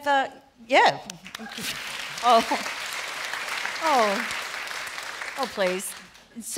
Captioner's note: applause